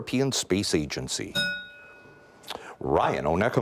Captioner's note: bell rings